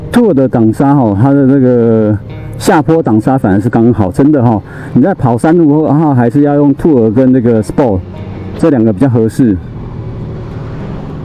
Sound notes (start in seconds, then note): 0.8 engine brake; 2.7 engine braking